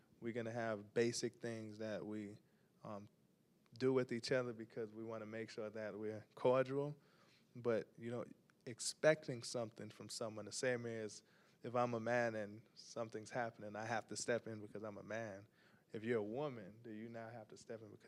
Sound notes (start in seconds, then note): none